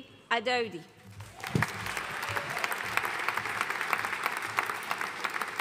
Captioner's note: audience applauding